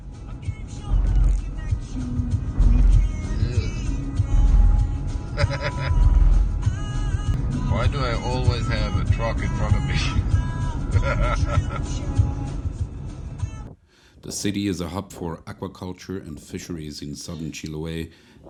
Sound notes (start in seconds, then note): 10.9 laughter